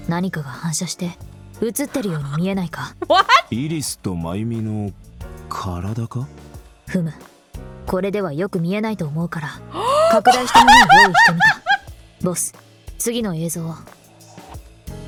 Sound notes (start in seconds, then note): 3.0 chuckles; 9.7 gasps and laughs